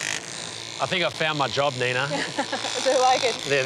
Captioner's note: laughs